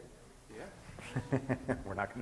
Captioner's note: laughing